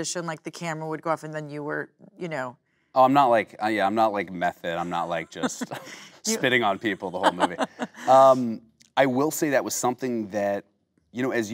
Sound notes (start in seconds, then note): 7.7 Kate laughing